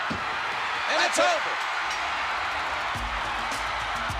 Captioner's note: bell ringing; upbeat music